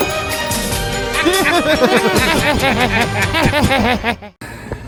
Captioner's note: laughs